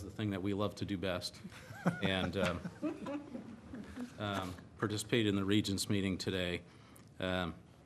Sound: laughter

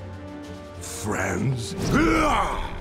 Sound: grunting

